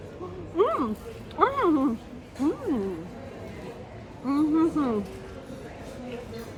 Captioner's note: happy mouth noises